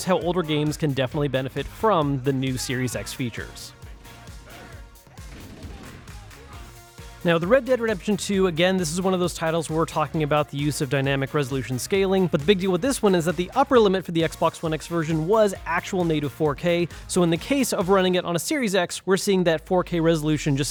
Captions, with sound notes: how older games can definitely benefit from the new Series X features. (gun blasting) Now, with "Red Dead Redemption 2", again, this is one of those titles where we're talking about the use of dynamic resolution scaling, but the big deal with this one is that the upper limit for the Xbox One X version was actual native 4K. So in the case of running it on a Series X, we're seeing that 4K resolution